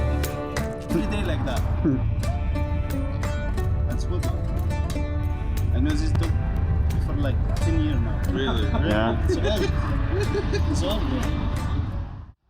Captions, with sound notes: Three days like that. That's good one. And this is dog for like ten years now. Really? Yeah. (laughing)